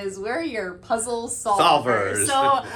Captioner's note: laughter